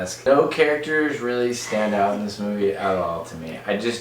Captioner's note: laughs